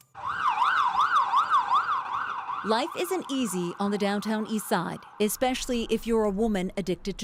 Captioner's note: sirens